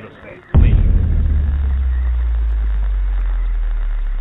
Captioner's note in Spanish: estruendo